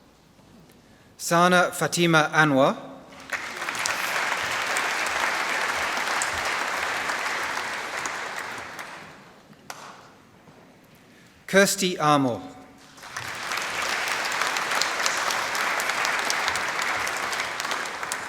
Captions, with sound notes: Sana Fatima Anwar. (Applause) Kirsty Armour. (Applause)